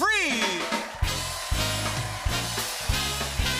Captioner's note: cheers and applause